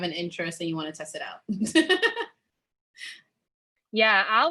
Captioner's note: giggles